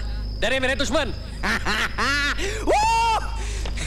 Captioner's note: Laughs